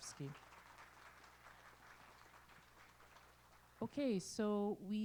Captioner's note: applause